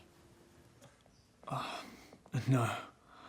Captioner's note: sighing